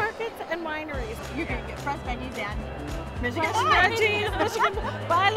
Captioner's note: laughs